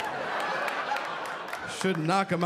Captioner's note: audience laughing